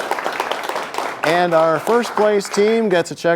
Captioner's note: applause